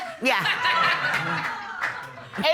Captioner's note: audience laughing